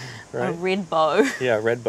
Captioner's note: laughs